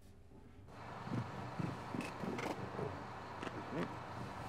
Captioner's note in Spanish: motor rugiendo